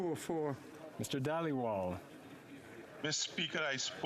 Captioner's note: speaking French